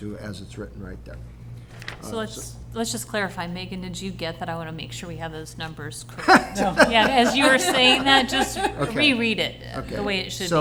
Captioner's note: laughter